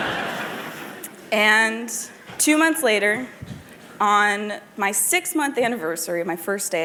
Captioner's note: laughter